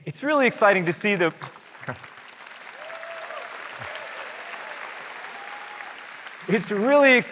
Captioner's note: applause